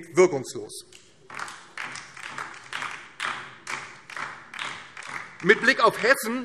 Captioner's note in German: Beifall DIE LINKE